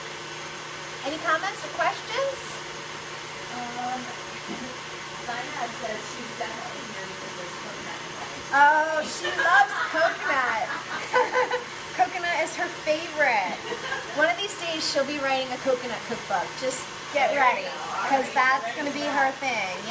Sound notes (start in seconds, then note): 9.1 laughs